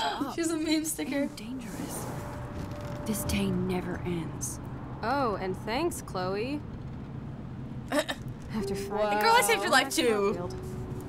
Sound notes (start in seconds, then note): 0.0 gasps; 7.9 chuckles